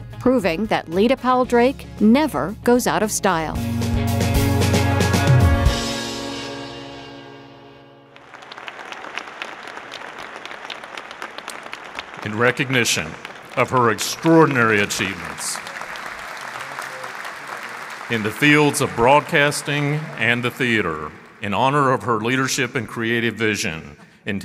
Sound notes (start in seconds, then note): 4.4 upbeat music; 7.8 audience clapping